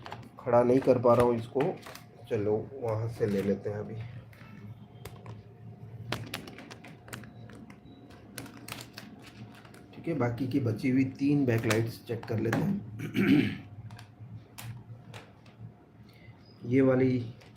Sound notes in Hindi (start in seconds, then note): 13.0 गला साफ़ करने की आवाज़